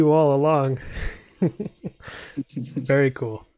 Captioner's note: laughs